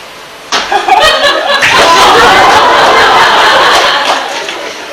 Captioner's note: falls, and the audience laughs